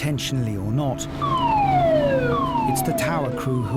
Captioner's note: siren blaring